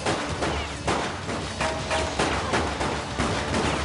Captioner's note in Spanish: Tiroteo